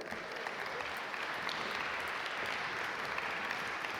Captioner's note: audience applaud